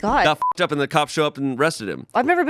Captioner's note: beep